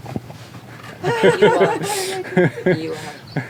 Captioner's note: laughs